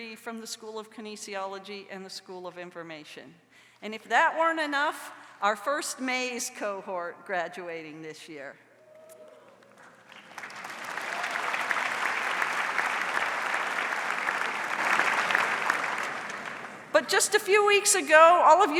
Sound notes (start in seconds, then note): 9.6 audience applauds